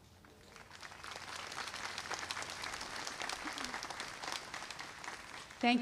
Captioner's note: applause